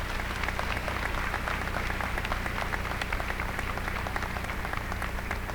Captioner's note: applause